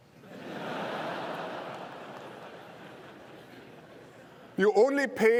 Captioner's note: laughter